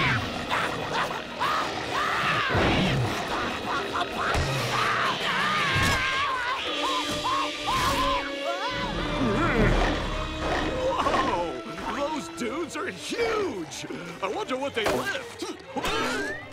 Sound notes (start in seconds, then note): 0.0 grunting; 1.8 screaming; 4.6 screaming